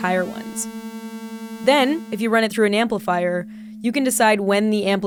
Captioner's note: tone becomes higher-pitched